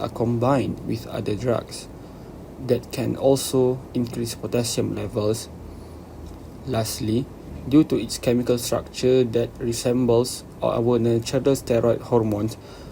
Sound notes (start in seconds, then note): none